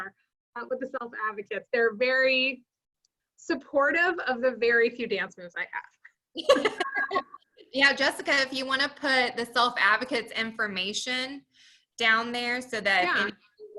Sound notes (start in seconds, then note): 6.4 laughing